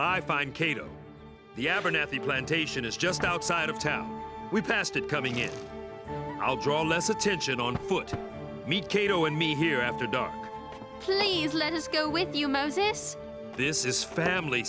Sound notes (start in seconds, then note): none